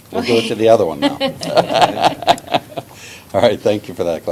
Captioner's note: laughter